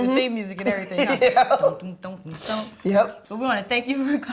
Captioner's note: Jeremy laughs